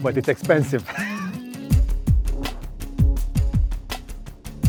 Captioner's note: laughs; suspenseful music